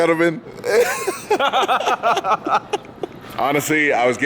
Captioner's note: men laughing